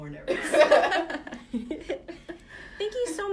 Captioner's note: laughter